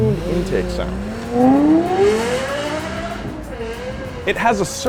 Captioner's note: engine revs